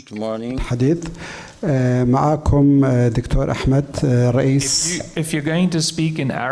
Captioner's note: speaking in foreign language